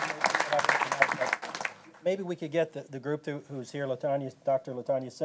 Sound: applause

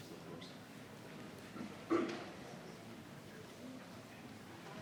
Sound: people chattering

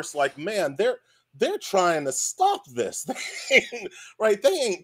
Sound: laughs

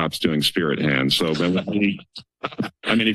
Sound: laughs

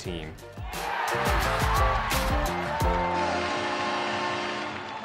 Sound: crowd cheering; crowd applauding

